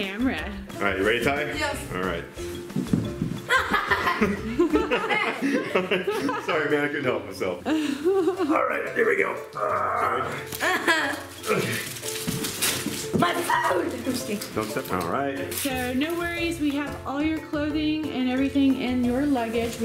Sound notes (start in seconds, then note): 3.5 they laugh; 9.5 grunts